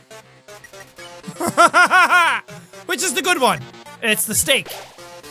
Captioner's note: hahahaha